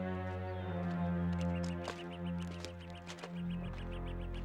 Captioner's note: birds chirping